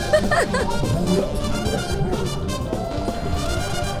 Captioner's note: laughing; bright carnival music